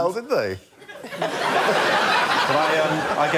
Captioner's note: laughter